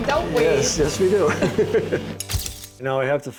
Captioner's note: laughter